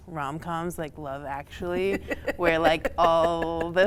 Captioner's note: laughter